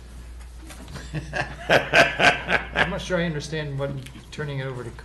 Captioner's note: laughing